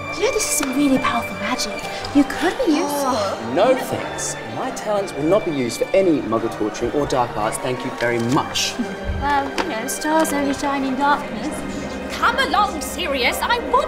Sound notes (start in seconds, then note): 2.6 Andromeda groans